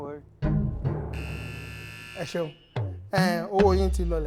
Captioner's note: buzzer pressed